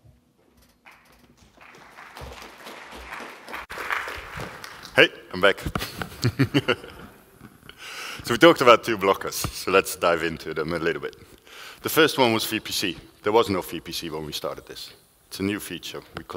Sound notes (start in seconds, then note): 0.8 applause; 5.8 laughs